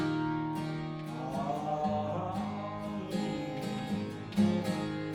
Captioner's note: humming